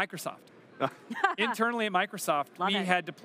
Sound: laughter

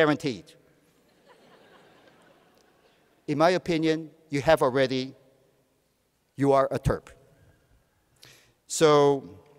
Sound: laughter

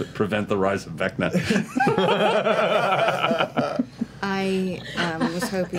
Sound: laughter

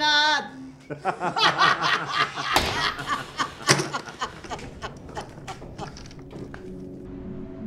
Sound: laughter

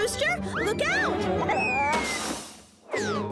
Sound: Purple Rooster exclaims

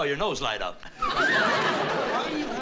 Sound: whistles

